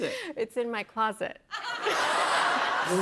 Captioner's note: laughter